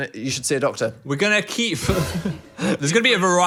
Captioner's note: laughs